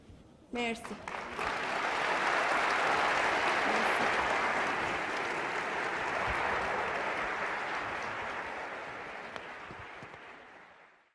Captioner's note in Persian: تشویق حضار